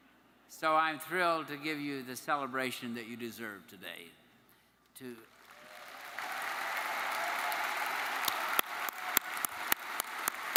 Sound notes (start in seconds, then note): 5.4 audience cheers